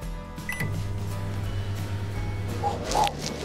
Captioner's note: microwave humming